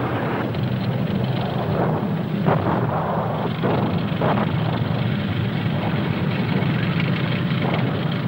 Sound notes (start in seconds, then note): 2.4 explosions booming; 2.5 engines humming